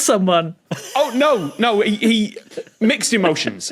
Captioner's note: wheezes